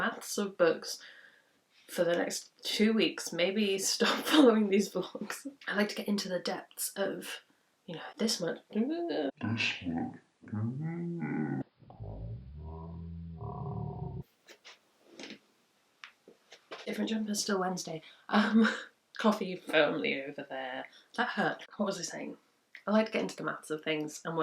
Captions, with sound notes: books for the next two weeks maybe stop following these vlogs I like to get into the depths of you know *slow mo noise* different jumper still Wednesday coffee firmly over there that hurt what was I saying? I like to get into the maths of things